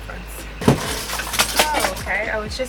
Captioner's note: everything spills off desk